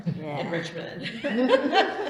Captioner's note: laughter